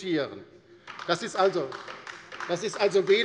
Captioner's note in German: Beifall bei der LINKEN